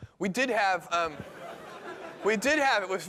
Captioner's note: laughter